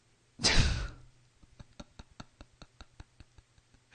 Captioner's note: laughs